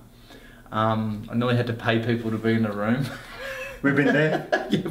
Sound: laughs

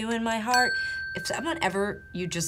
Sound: bell dinging

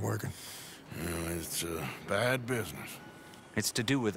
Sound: grunts

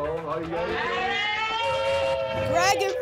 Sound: cheering

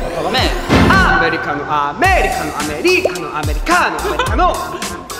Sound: can't help but laughing

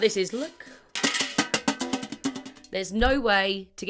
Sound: tin container rattling

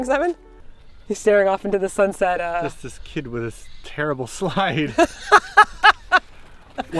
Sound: laughing

